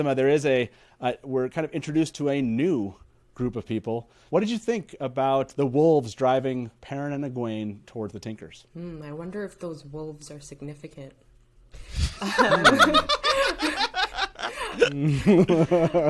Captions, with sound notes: - Riddhima, there is a, we're kind of introduced to a new group of people. What did you think about the wolves driving Perrin and Egwene towards the Tinkers? - I wonder if those wolves are significant. (all laughs)